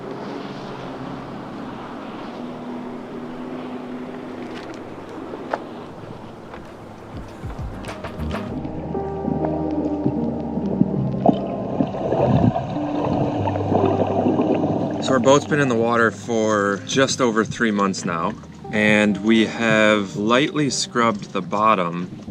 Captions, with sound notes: (upbeat music) (water bubbling) - So our boat's been in the water for just over three months now and we have lightly scrubbed the bottom